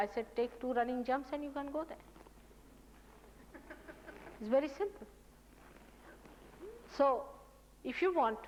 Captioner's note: audience laughing